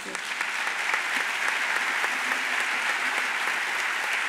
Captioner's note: audience applauds